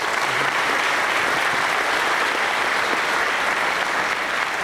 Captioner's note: applause